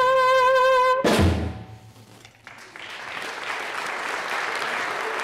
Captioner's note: applause